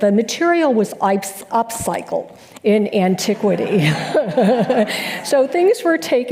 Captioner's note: laughs